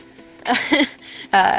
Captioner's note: laugh